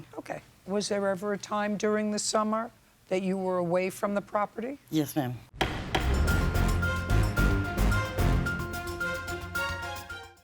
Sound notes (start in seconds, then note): 5.6 intense music; 5.6 gavel thudding